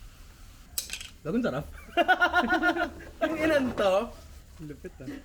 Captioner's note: laughter